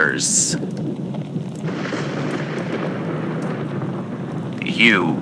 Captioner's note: thunderclap fx